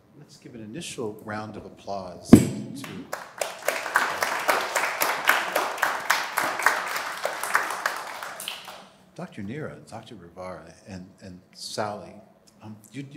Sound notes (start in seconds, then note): 2.8 applause